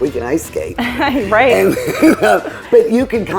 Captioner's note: laughing